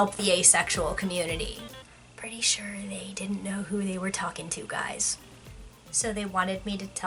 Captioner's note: whispers